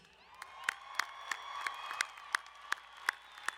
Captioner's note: clapping